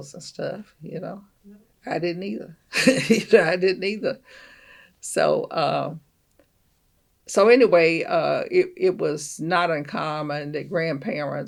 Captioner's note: laughs